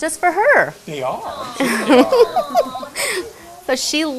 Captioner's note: laughs